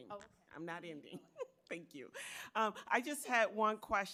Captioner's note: chuckling